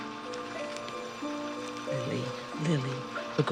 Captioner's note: machines whirring